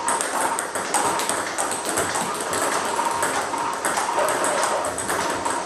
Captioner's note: ball ping pong hitting continues